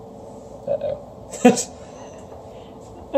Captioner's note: laughs nervously